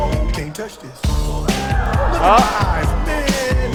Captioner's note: آواز خواندن; تشویق، تشویق